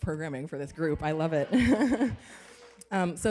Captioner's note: laughs; applause